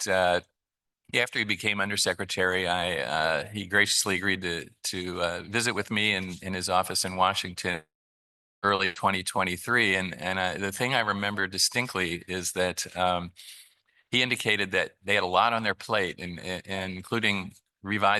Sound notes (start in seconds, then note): none